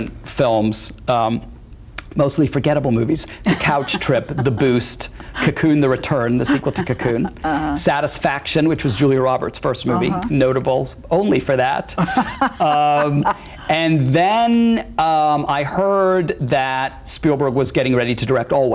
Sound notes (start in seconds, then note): 12.0 laughs